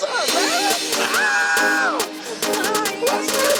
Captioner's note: screams